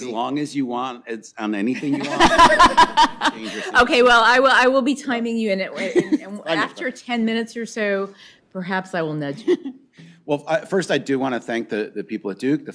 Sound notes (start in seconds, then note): 1.7 laughter